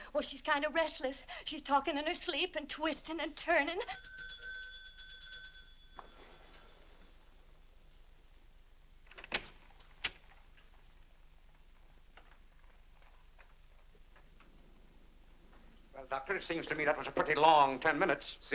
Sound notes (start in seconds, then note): 3.8 bell rings; 9.1 door opens